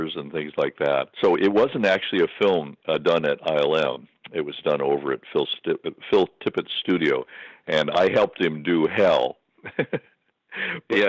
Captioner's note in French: Rire